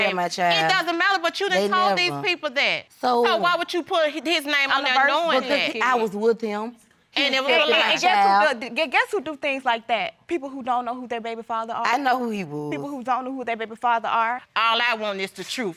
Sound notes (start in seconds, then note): none